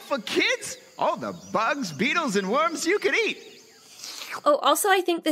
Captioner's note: slurps